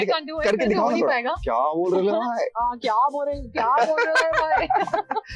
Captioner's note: engage in Mumbai lingo